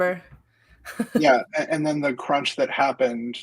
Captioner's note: laughs